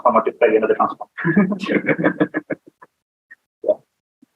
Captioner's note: laughter